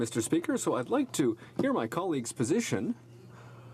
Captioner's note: speaking French